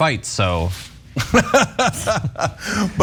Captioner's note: laugh